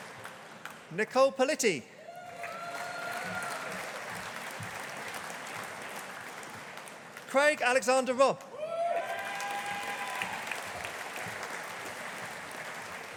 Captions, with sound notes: Nicole Politi. (AUDIENCE APPLAUDING) Craig Alexander Robb. (AUDIENCE APPLAUDING)